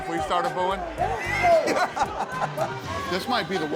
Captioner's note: laughing